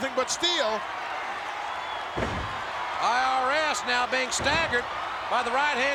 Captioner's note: applause